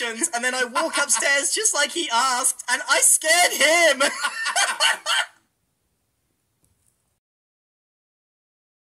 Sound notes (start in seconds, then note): 3.6 laugh